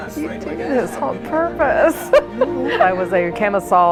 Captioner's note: laughs